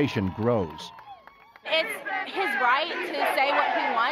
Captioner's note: cheers and Applause